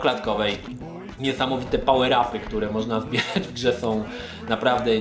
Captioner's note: chuckles